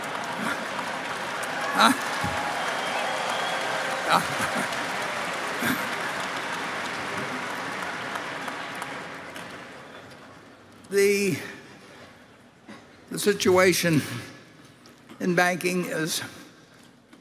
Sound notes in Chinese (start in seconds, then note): 0.0 Applause; 7.8 掌聲